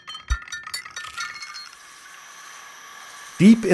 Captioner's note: rainforest sounds